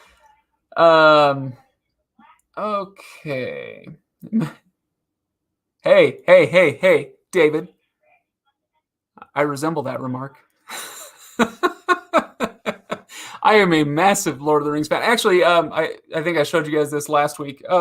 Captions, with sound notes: Okay. Hey, hey, hey, hey David, I resemble that remark. (laughs) I am a massive "Lord of the Rings", but actually, I think I showed you guys this last week,